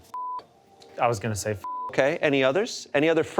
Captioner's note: beep